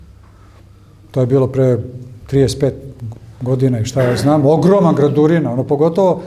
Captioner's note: coughs